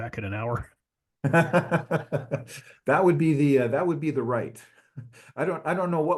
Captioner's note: laugh